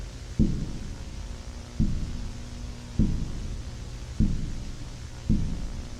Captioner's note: footsteps thudding